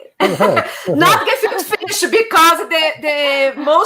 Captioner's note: laughter